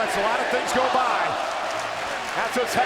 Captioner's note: audience chanting and clapping